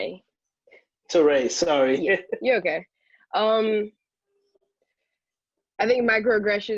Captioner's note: chuckles